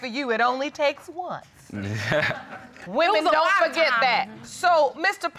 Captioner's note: chuckles